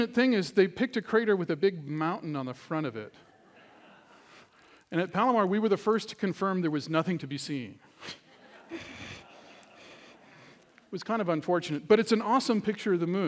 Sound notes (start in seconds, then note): 3.2 laughter; 8.0 laughter